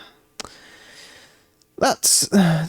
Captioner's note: exasperated sigh; huh; inhales